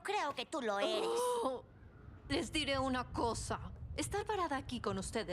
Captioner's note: groan